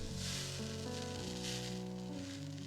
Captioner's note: pssssssh of steam